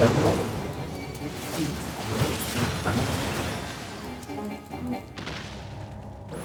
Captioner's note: gunshots